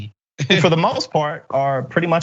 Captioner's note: laugh